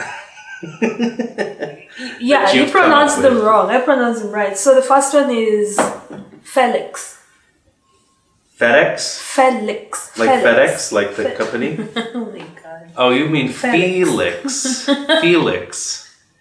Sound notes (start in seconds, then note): 13.7 laughs